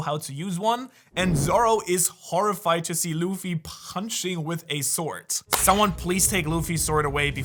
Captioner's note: punching